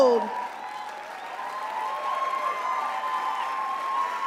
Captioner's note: crowd cheers